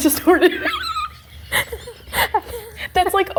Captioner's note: both laughing